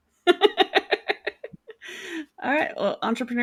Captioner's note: laughing